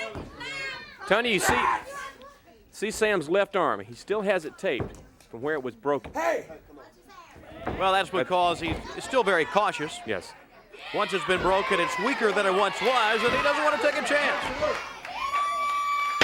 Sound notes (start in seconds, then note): 4.0 crowd chatter